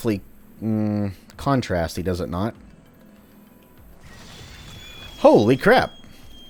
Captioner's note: "Tree" lets out a long squeal